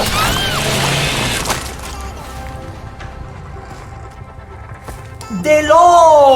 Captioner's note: drinks water in Spanish; chokes on water in Spanish